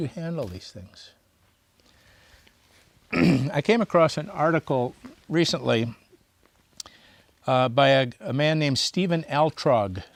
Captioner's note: clears throat